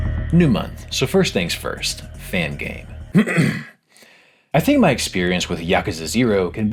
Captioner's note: clears throat